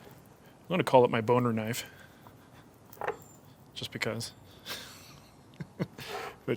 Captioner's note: chuckles